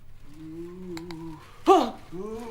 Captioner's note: Marley groans